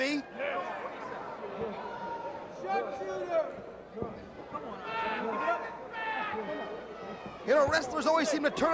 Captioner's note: crowd chatter